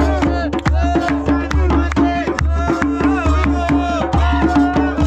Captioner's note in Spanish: Aplausos